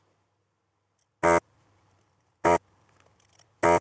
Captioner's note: buzzing